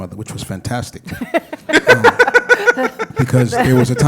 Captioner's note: laugh